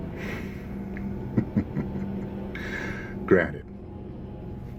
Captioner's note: laughs